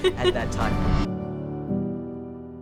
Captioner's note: host laughing; gentle music fades